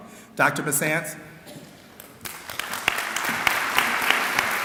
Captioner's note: clapping